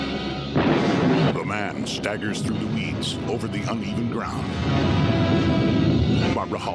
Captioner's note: thunder rumbling